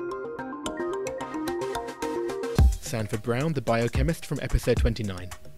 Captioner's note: voiceover